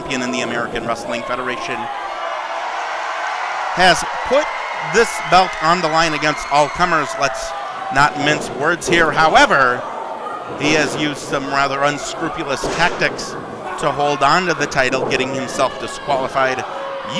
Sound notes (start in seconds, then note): 2.7 audience cheering